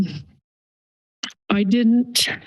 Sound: pause

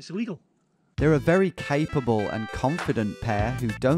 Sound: voiceover

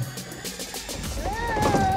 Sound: child cooing

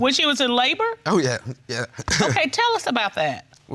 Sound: chuckles

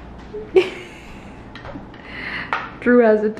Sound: laughing

